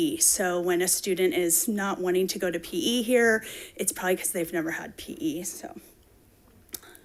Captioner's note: none